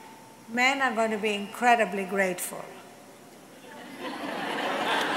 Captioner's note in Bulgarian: смях/аплодисменти